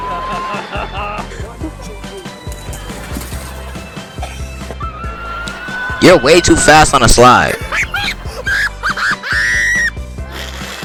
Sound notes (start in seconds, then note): 7.4 kid laughing uncontrollably